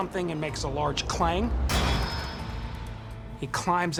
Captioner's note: bucket clangs